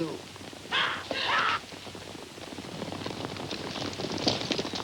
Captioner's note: people screaming; horses galloping